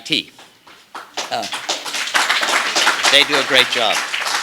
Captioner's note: applause